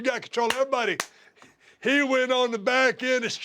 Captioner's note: applause